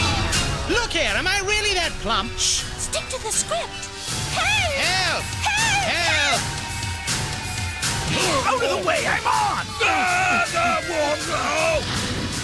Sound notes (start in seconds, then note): 8.1 both grunt; 9.7 both yelling